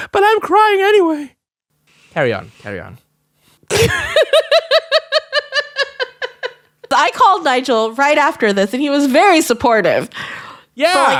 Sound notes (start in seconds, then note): 3.7 laughs